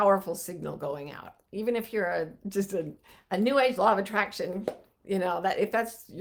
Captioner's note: claps